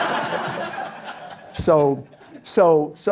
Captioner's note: audience Laughter